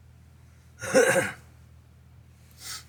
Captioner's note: cough